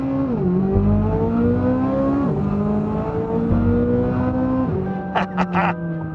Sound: engine sounds

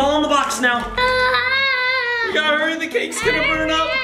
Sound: screams

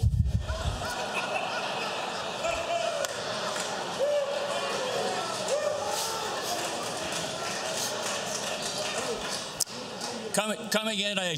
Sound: laughter

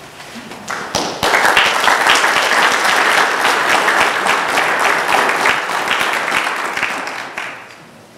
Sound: applause

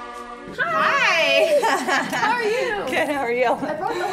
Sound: laughs

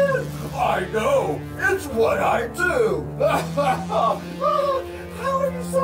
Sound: laughing

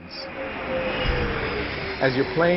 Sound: engines booming

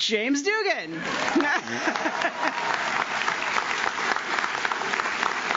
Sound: audience claps

